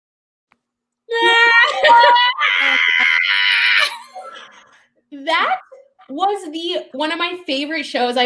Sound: imitates crying

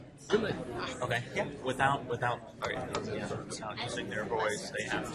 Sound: voiceover

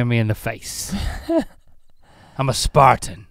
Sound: chuckles

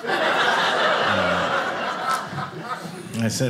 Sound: audience laughing

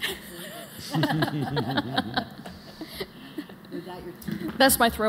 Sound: laughter

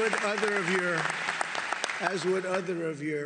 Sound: applause

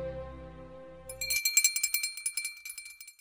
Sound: bells chiming

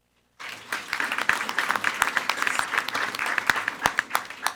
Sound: everyone applauding

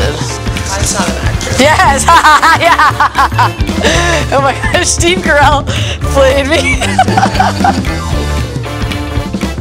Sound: laughter

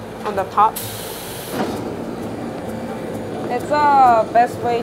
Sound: torch spewing

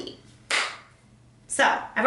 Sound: claps

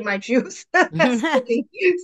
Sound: laughs

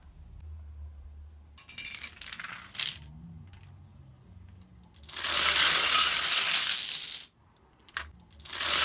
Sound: dominoes falling

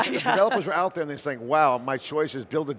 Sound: laughing

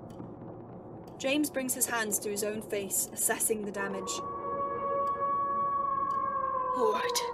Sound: Moony Howls

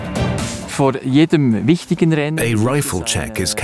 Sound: speaking German

